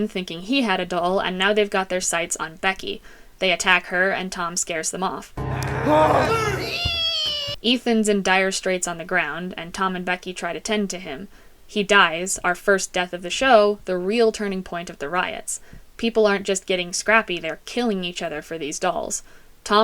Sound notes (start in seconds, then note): 5.5 growling; 5.5 grunting